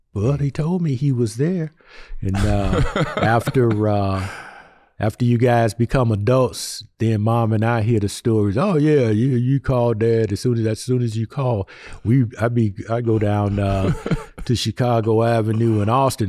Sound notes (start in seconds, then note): 2.3 chuckling